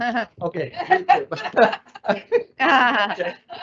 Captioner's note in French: rires